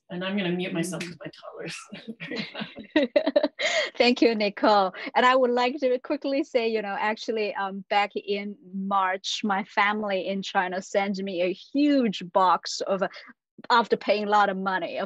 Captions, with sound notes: and I'm gonna mute myself with my toddlers. (laughing) - Thank you Nicole. And I would like to quickly say, you know, actually back in March, my family in China sends me a huge box of, after paying a lot of money